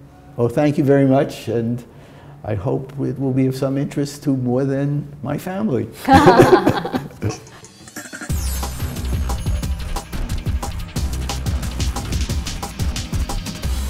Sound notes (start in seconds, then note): 6.1 laughter